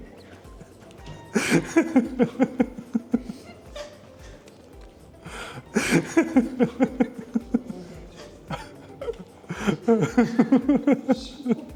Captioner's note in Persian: خنده